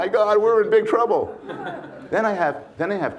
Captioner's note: audience laughs